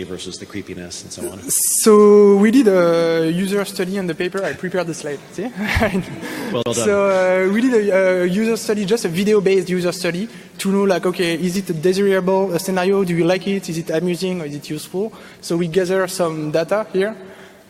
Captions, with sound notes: versus the creepiness and so on? - So we did a user study in the paper. I prepared a slide, see? (audience laughing) - Well done. - So we did a user study, just a video based user study to look at okay, is it a desirable scenario? Do you like it, is it amusing, or is it useful? So we gathered some data here,